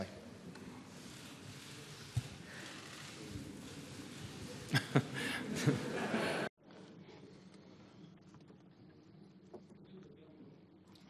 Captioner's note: laughs